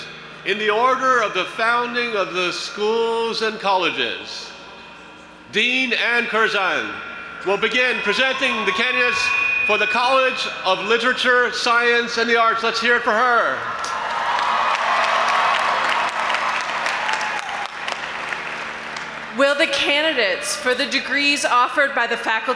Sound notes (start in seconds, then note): 13.7 audience applauding and cheering